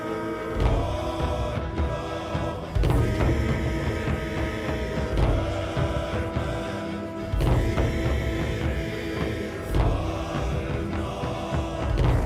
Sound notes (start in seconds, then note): none